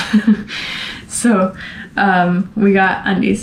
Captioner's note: laughter